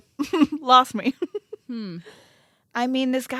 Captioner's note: laughs